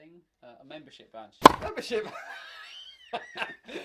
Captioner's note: laughter